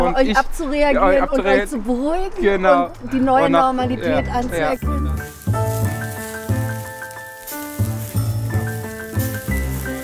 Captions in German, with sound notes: Euch abzureagieren, euch zu beruhigen. Genau. - Und die neue Normalität anzuerkennen. (Verspielte Klaviermusik) (Brutzeln)